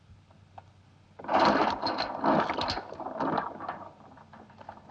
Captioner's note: gate clattering